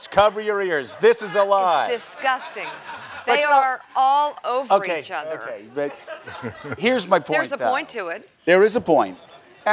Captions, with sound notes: cover your ears, this is a lie. - It's disgusting, they are all over each other. - Okay. But here's my point. (laugher) - There's a point to it. - There is a point.